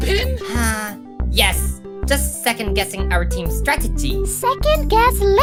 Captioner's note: sigh